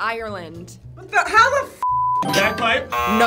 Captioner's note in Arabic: الصافرة